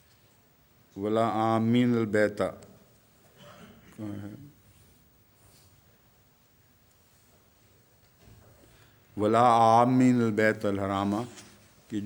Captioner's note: Arabic